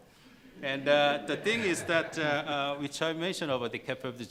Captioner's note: laughing